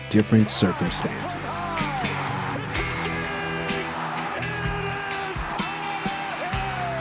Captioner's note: commentator noise